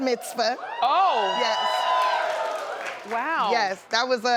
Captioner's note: cheering and applauding